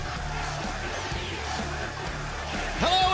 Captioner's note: cheers and applause